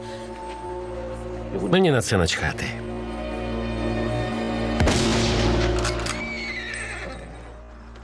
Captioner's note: gunshot, gun clicks